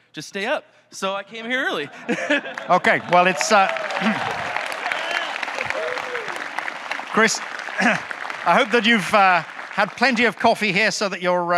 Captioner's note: audience clapping